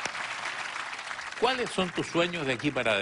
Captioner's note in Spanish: Aplausos